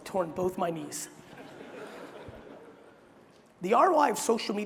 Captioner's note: crowd laughing